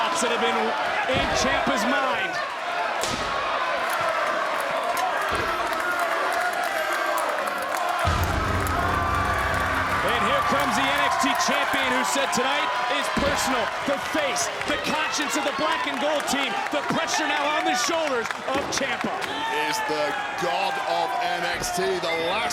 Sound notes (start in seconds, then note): 3.7 crowd cheering; 8.0 dramatic music